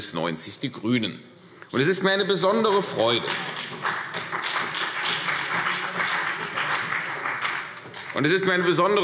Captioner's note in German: Beifall CDU und vereinzelt BÜNDNIS 90/DIE GRÜNEN